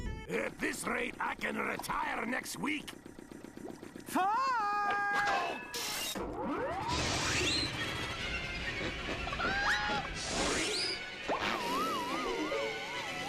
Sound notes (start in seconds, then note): 3.0 engine running; 11.2 air hissing